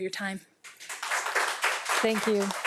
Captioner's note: audience claps